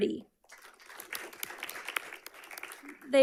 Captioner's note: audience clapping